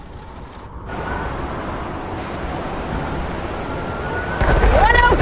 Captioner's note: wind blowing